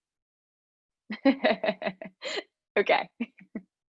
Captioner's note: laughs